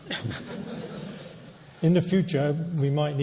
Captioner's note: laughter